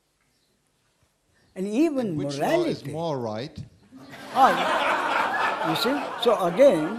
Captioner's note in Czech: smích